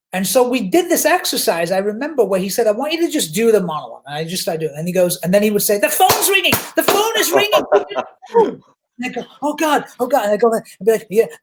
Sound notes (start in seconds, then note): 5.9 claps hands; 7.0 laughs